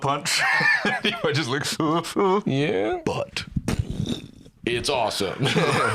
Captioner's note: fretting noises; explosion